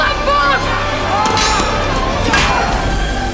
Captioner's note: shouting, swords clanging